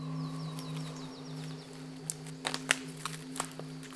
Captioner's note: birds singing